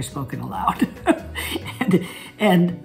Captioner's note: Catherine laughs